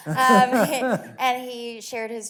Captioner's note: laughs